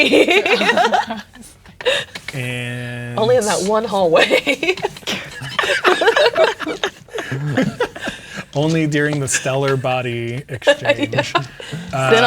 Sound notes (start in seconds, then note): 0.0 laughing; 4.8 players laughing; 11.3 laughing